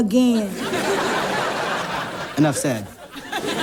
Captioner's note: audience laughs